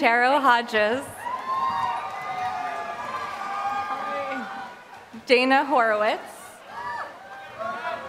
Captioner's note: applause